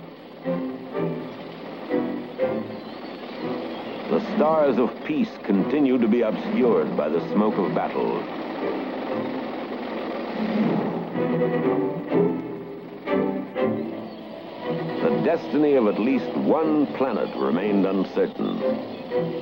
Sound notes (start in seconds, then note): 8.4 heavy machinery moving